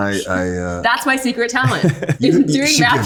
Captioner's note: Austin laughing